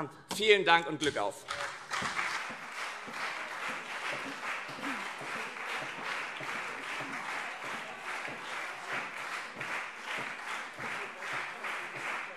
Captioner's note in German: Beifall CDU und SPD